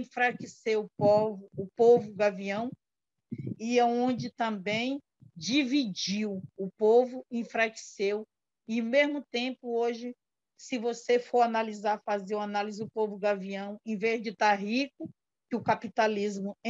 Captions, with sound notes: And if you see today, the (foreign language) peoples are really poor or now as rich as they should be. And that's why we need to plant and harvest